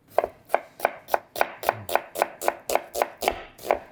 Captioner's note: knife thudding